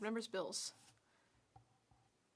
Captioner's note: speaking French